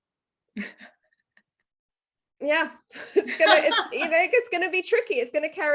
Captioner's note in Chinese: 笑声